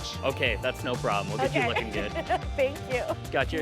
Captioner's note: laughs